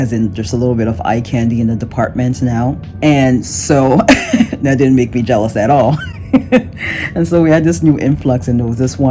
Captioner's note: chuckles